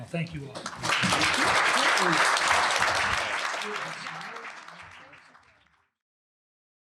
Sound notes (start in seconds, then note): 0.3 applause